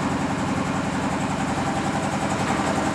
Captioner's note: rattling noise